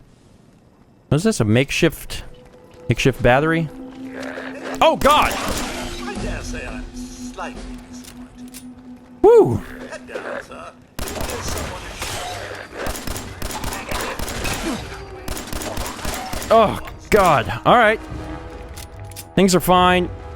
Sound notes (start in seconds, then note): 5.0 blam! blam! blam!; 10.9 blam! blam! blam!; 12.7 blam! blam! blam! blam! blam!